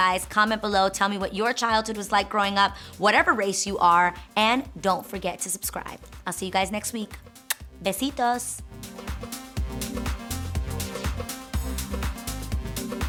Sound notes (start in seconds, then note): 7.4 lips smacking; 8.6 upbeat music